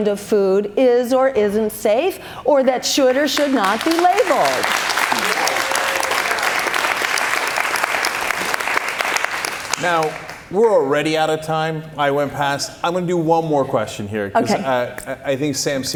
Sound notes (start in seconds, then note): 6.9 cheers and applause